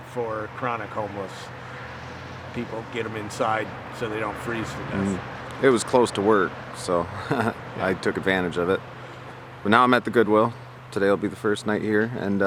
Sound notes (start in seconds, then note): 7.0 laughing